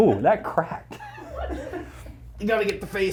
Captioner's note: all laughing